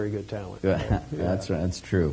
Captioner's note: chuckling